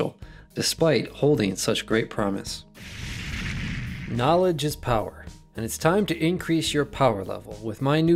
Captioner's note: sound of explosion!